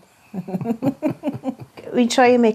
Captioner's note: both laugh